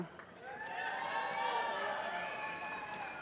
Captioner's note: cheering